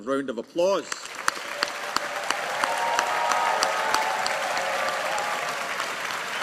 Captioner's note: audience applauding